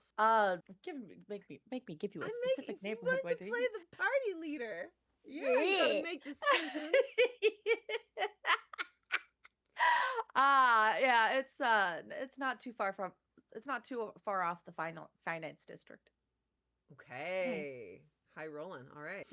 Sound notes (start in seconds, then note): 6.4 laughter